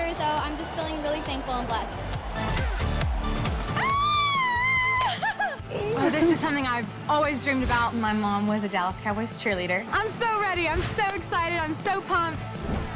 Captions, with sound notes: I just feeling really thankful and blessed. (screaming) This is something I've always dreamed about. My mom was a Dallas Cowboys Cheerleader. - I'm so ready. I'm so excited. I'm so pumped.